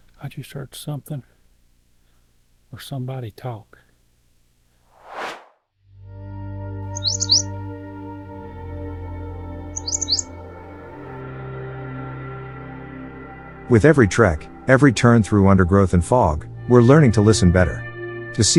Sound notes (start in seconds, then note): 4.9 air swooshes; 6.5 peaceful music; 6.9 bird chirping